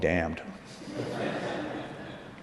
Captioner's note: laughter